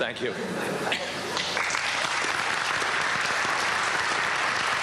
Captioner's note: applause